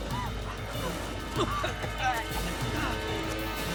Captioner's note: coughing